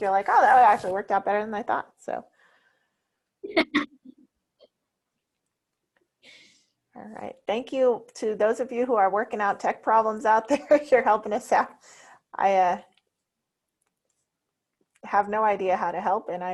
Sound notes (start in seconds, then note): 3.4 laughs